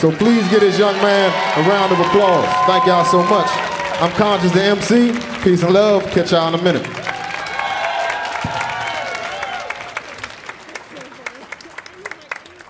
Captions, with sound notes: So please give this young man a round of applause. (audience cheering) Thank y'all so much. I'm Konshens the MC, peace and love. Catch y'all in a minute. (audience applauding and chattering)